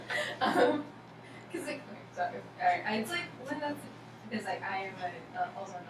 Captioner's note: speaking softly